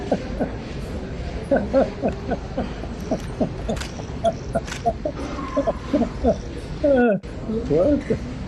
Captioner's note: Ketawa